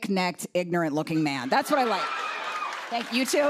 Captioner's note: cheers and applause